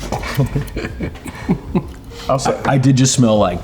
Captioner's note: laughs